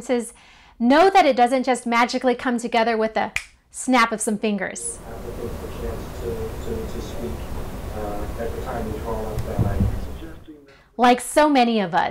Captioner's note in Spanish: Audio lejano de la conferencia virtual